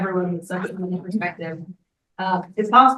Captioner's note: speaks faintly